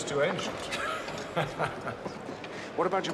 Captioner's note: Tertawa